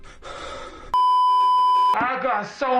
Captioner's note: cursed heavy breathing; beeeeeeeeeeeep